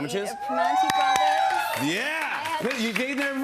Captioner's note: applause